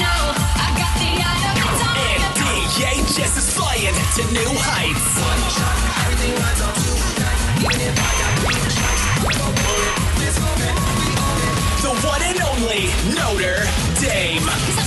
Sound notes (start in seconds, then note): 7.6 video game sound effects